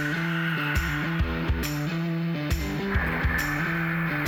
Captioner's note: sawing